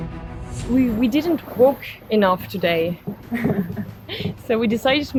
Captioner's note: laughts